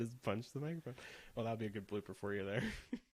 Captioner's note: laughs